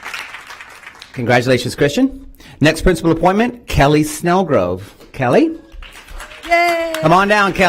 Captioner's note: applause